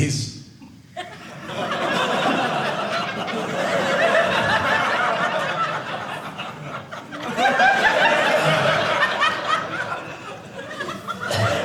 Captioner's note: audience laughing